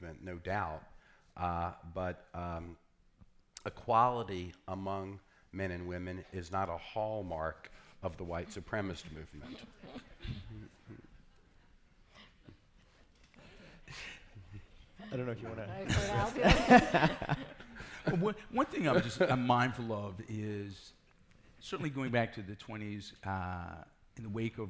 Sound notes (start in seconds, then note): 10.3 laughing; 15.5 laughing